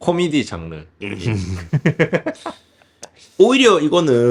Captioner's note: laugh